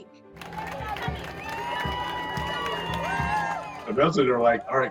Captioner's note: protestors cheering